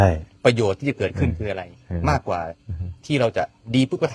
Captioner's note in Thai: เสียงหัวเราะ